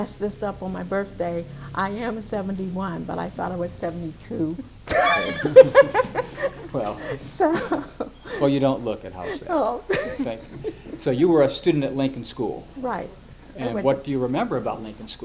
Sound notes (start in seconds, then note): 4.8 laughs